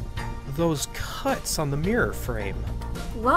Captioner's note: none